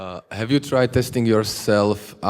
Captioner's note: voiceover